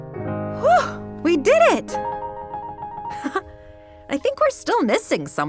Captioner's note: laughs